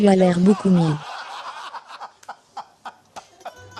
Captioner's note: all laughing